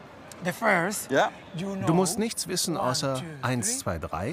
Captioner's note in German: englisch